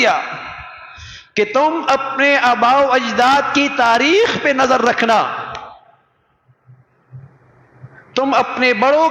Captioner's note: sigh